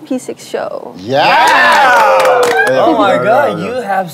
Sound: everyone cheering

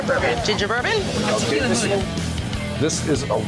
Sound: loud chatter

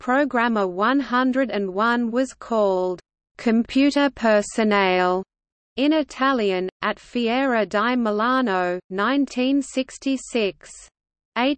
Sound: in Italian

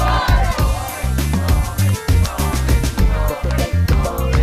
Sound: crowd

